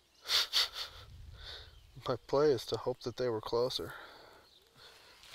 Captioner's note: laughing